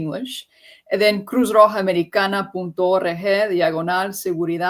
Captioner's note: speaking Spanish